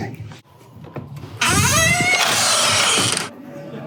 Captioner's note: well Oiled Door Hinge Sounds